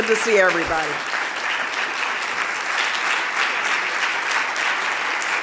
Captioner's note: audience applauding